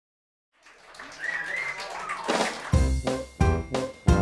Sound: applause; upbeat music

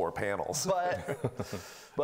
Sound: laughing

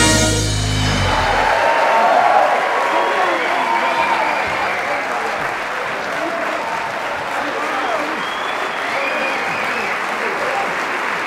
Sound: applause

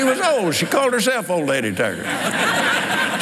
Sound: laughs

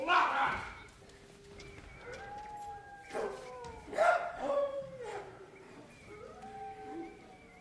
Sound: animals cry

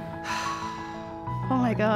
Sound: sighs

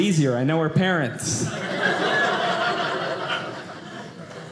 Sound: audience laughing

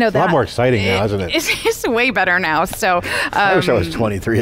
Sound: laughing

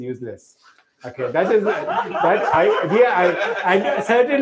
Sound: laughter

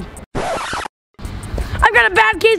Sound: electronic rewinding

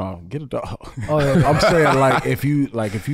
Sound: chuckles

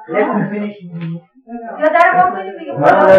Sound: speaking Farsi

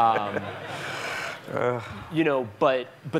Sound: laughing

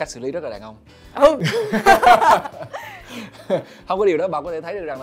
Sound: laugh

